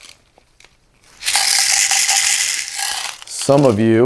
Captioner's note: rattling